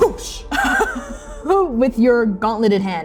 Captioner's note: laughing